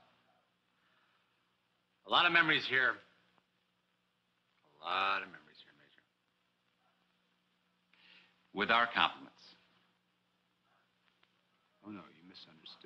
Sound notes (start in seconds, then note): none